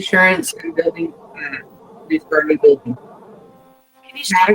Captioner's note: speaks faintly